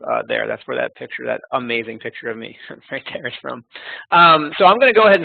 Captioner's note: laughing